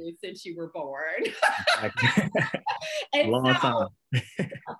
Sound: laughter

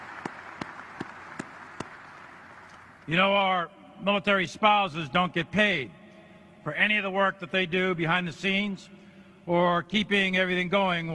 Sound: applause

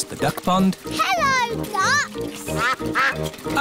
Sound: quacking

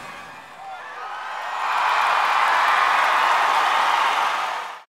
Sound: crowd loudly cheering

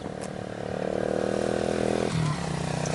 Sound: motorcycle Revving

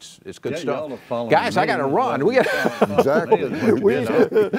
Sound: laughs

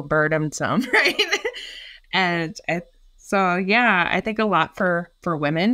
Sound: laughing

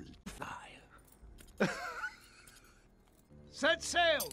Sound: evil laugh

